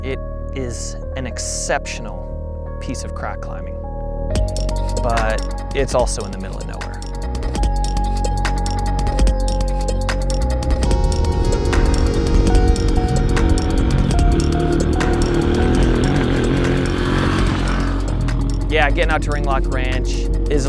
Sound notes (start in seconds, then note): 4.0 upbeat music; 8.1 upbeat music; 12.1 motor revving